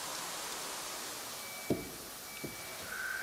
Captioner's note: distant beeping